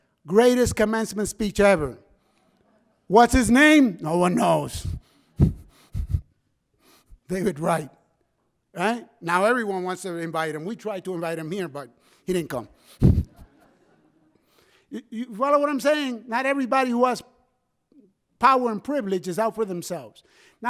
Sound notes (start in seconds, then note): 5.4 laughs; 13.0 laughs